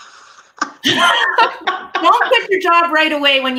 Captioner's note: laughing